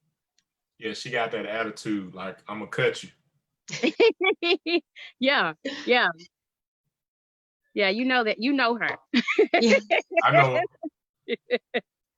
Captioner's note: laughter